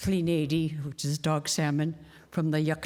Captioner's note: speaking indigenous language